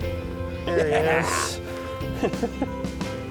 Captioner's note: laughs